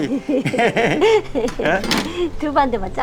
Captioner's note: both laughing